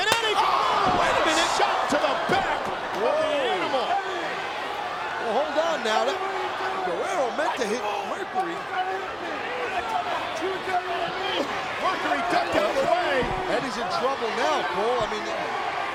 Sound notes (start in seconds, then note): 9.1 wrestlers yelling